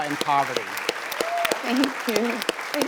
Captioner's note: applause